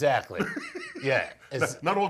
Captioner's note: laughs